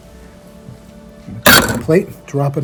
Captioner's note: plate clangs